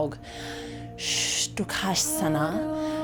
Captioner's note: inhales